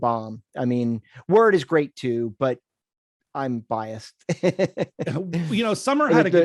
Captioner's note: laughs